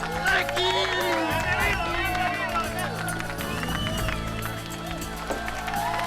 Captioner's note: Latrell speaking in foreign language; overlapping chattering; group cheers